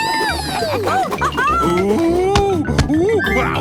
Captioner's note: laughing